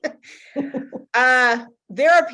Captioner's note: laughs